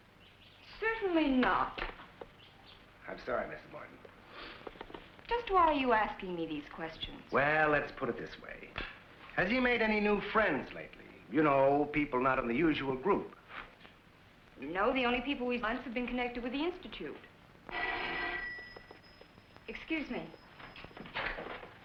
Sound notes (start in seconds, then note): 17.7 phone ringing